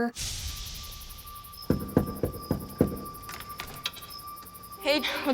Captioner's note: man knocking